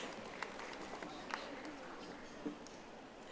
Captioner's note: audience applauding